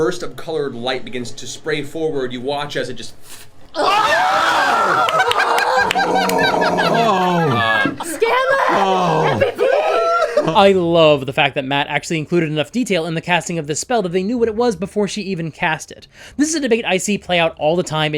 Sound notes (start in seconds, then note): 3.2 puff of air; 3.7 cheering